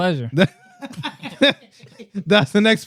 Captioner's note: laughing